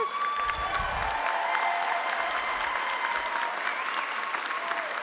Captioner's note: audience applauding